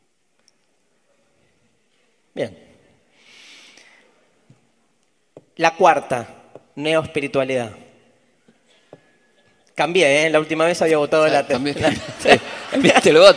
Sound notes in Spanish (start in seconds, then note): 8.4 audience murmurs and chuckles